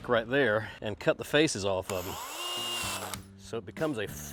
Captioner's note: drill whirring